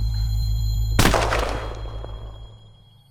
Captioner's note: gunshot